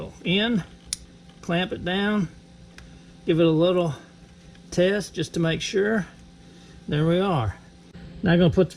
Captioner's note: click